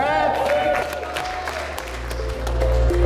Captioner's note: applause